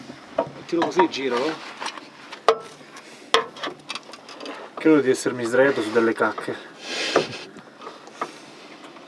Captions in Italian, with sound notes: Mettilo così. Giralo. (rumori metallici) Credo di essermi sdraiato su delle cacche.